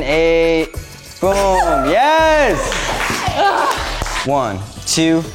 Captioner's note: aerialists cheering